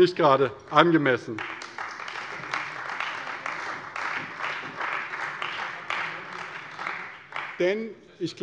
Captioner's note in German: Beifall bei der CDU und dem BÜNDNIS 90/DIE GRÜNEN